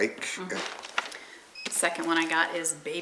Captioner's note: plastic rustling